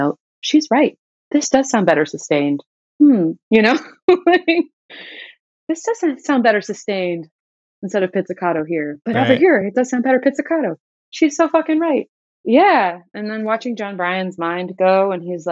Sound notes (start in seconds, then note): 2.6 laughter